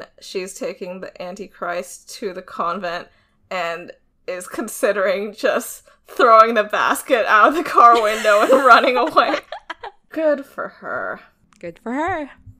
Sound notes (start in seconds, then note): 7.7 both laughing